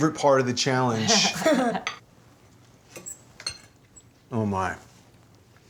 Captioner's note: laughing